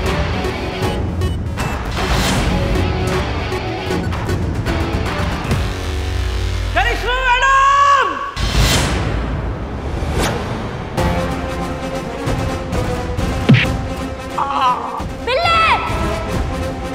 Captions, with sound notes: Karishma Madam! [yelping] Billu!